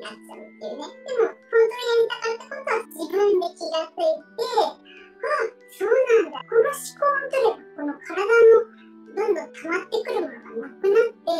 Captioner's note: laughs